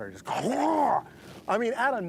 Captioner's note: gobbling